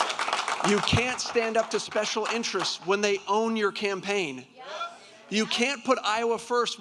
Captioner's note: applause